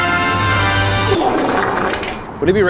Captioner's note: bowel Splatter